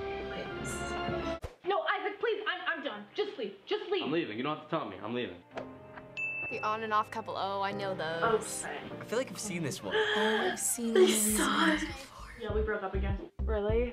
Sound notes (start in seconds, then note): 9.9 gasps